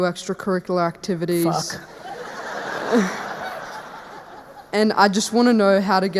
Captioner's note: audience laughing